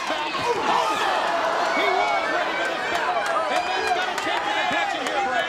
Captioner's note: audience cheers and claps